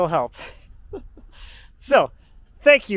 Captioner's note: chuckles